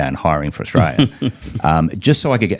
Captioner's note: chuckles; laughs